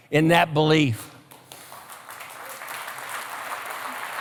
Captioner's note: applause